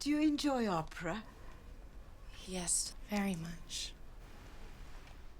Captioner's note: none